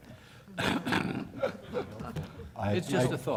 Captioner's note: laughter